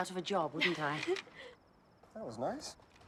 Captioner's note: laughs